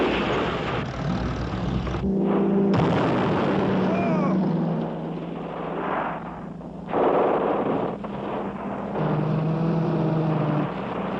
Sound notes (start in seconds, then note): 1.7 shout; 2.6 explosion; 6.8 gunfire